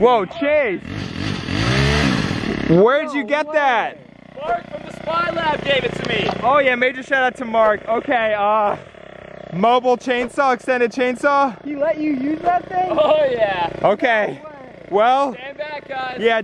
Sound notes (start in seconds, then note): 0.9 engine revving